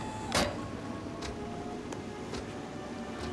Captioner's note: footstep